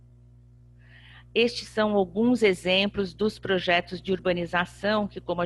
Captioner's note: speaking portuguese